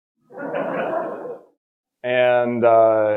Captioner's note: all laughing